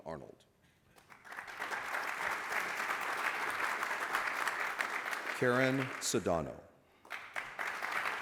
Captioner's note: applause